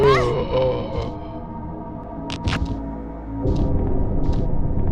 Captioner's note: tense music; unseen voice moaning